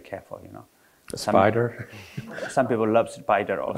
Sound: chuckles

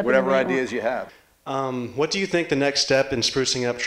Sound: voiceover

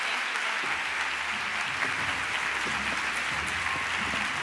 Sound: cheers and applause

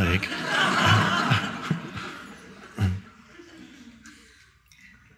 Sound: audience laughing

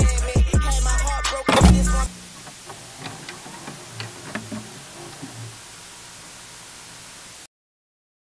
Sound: TV Static

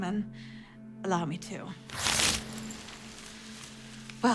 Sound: paper tearing

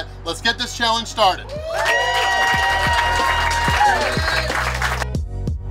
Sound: cheering & Clapping

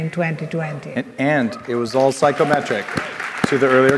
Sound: audience applauding

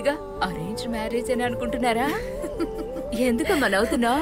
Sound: laughs

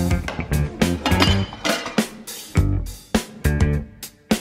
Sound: pots clanging

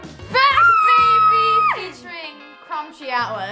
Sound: scream

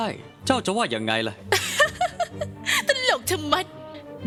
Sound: laughing

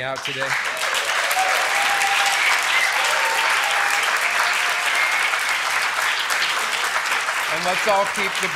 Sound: applause

